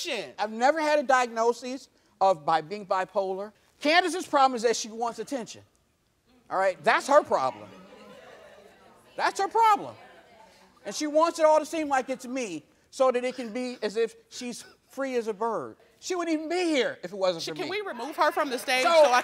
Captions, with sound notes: I've never had a diagnosis of being bipolar. Candace's problem is that she wants attention, all right? That's her problem. (audience murmurs) That's her problem! And she wants it all to seem like it's me so that it can be as if she's free as a bird. She wouldn't even be here if it wasn't for me! - Can we remove her from the stage so I can